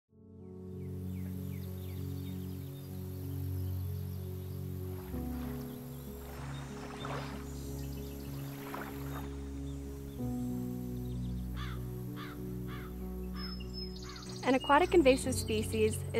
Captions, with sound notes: (gentle music) (birds singing) (water lapping) (crow caws) - An aquatic invasive species